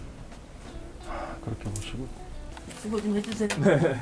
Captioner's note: sigh😕